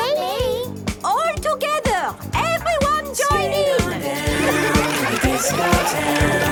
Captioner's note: laughter